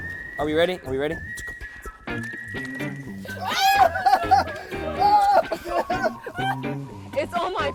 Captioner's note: all yelling